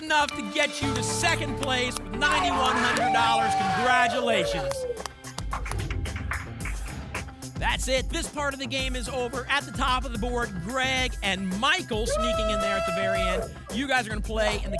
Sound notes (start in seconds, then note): 4.1 applause and cheering cont; 5.5 whoosh